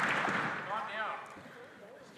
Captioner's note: some Applause